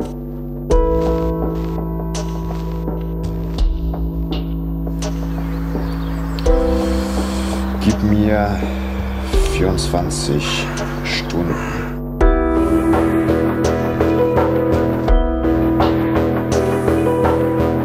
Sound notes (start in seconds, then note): 4.9 birds tweet; 11.3 raven crows